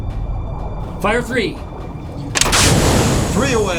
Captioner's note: torpedo releases